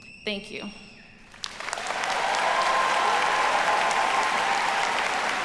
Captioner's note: audience applauding